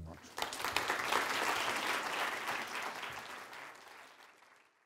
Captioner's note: audience applauds